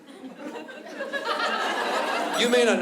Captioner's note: laughter